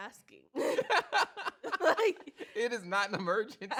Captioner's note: both laugh